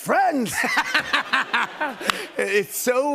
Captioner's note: laughter